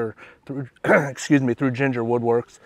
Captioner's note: clears throat